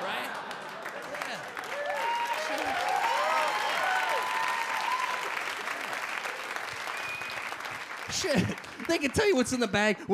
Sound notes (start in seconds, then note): 1.0 audience cheer and applaud